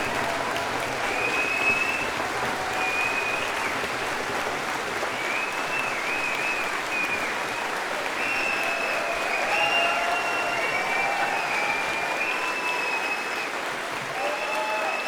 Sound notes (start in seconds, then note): 0.0 audience applause and whistling; 3.9 whooping and clapping